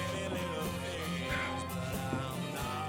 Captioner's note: sighs